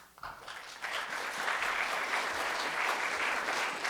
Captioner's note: applause